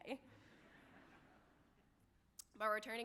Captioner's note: audience laughing